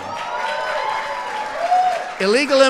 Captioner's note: applause